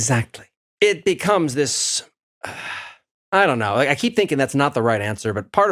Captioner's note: sigh